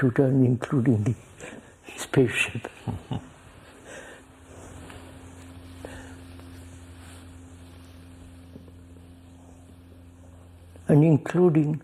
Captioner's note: laughs